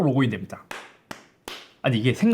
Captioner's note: clap; clap clap; clap clap clap